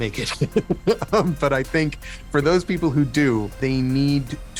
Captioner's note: laughing